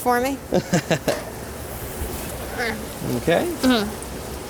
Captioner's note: laughs